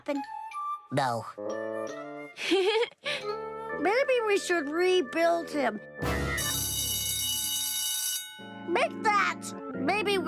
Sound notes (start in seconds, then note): 2.4 giggling; 6.4 ringing